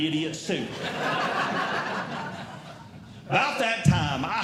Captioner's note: audience Laughing